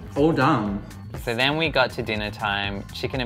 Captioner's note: voiceover